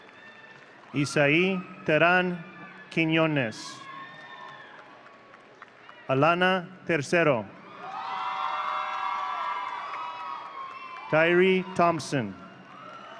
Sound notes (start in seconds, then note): 4.0 audience cheering; 7.6 audience cheering